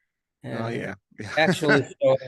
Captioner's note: laughs